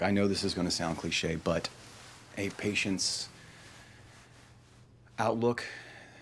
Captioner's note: sighs